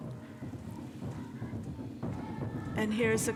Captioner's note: people chanting; upbeat music